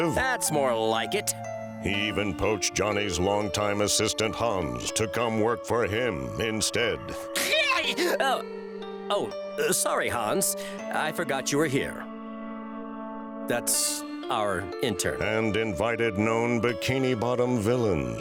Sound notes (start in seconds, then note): 7.3 shrieking